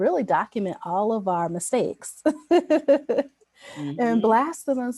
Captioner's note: laughs